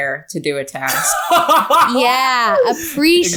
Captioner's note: laughing